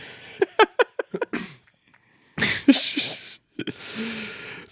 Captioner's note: laughing